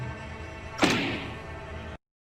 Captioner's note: bang